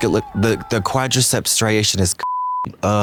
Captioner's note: beep